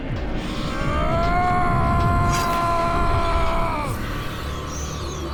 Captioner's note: yelling